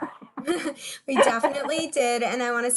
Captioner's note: laughs